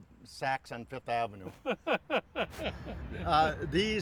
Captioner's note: laughs